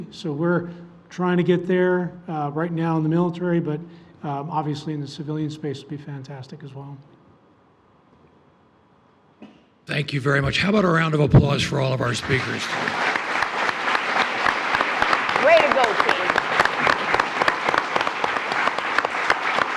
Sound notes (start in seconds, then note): 11.8 attendees applauding